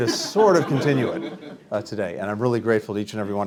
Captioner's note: laughter